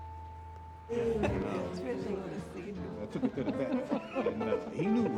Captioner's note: people chattering and laughing